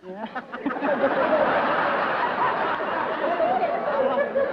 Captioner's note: laughter